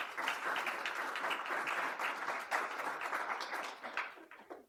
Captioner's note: audience applaud